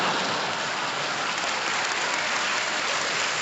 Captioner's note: applause